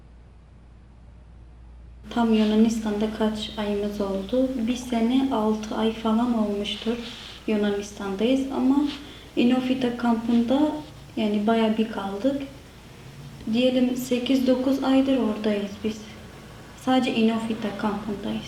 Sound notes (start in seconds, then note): 2.8 Turkish